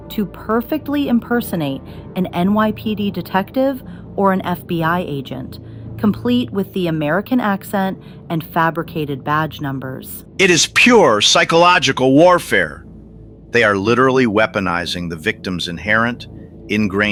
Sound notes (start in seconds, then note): 10.7 excited